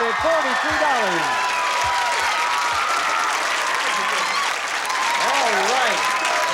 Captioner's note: cheers and applause